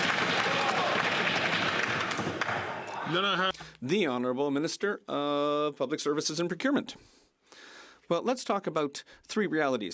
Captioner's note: some Applause